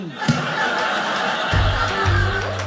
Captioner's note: audience laughing